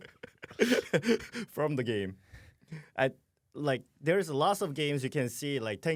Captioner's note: laughs